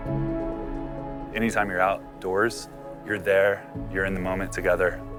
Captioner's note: voiceover